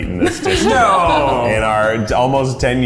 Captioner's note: laughs